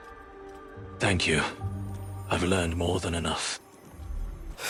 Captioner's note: whispers